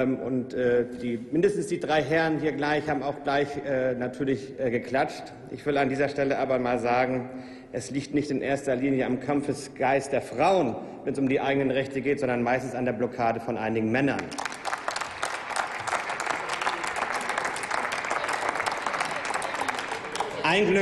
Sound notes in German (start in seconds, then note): 14.1 Applaus